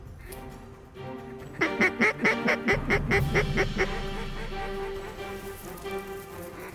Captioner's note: duck calls